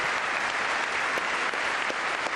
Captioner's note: applause